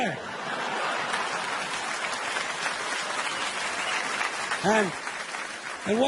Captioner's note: audience applauding